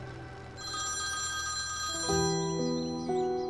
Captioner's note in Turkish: Telefon Çalıyor